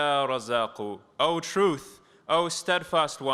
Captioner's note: non-english speech